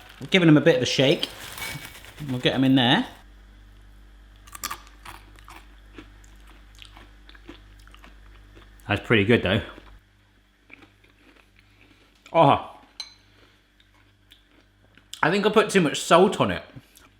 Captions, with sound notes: Given them a bit of a shake. We'll get them in there. (corn flake crunches) That's pretty good though. Oh, I think I put too much salt on it.